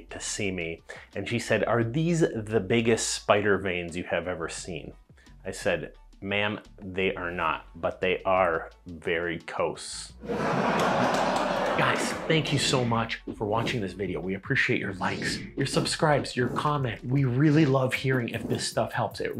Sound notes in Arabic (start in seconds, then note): 10.2 جمهور مزيف يضحك